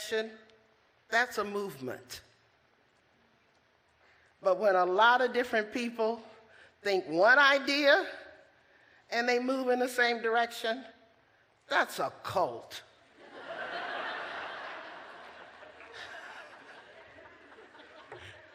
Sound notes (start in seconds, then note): 13.2 laughter